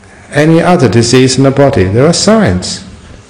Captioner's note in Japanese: none